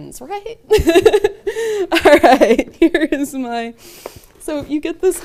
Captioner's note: laughs